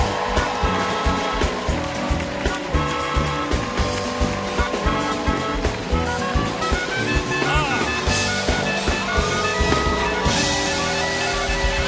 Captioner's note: applause